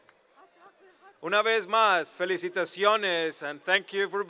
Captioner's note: speaking spanish